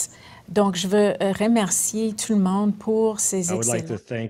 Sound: speaking French

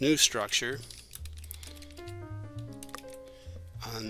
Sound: sound of typing

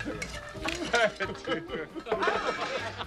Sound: laughing

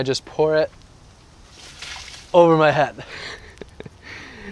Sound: laughs

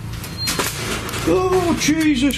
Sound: beeping

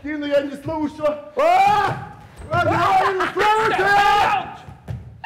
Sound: Sharik loudly laughing; drunk man loudly shouting

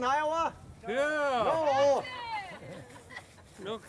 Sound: crowd laughs

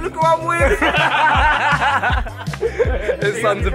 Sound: all laughing

